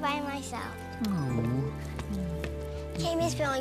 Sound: sighs

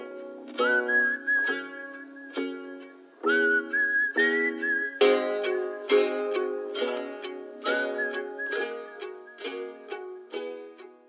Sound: whistling

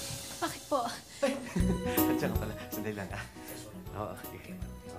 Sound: chuckles

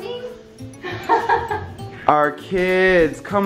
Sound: laughs

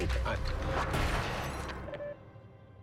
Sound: shatters

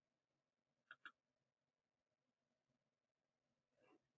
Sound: mouse clicking

